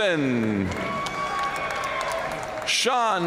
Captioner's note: audience cheering and applauding